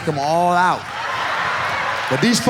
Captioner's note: audience laughs